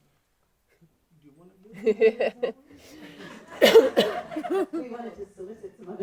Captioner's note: laughing